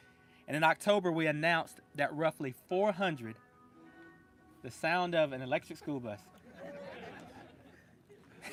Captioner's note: laughter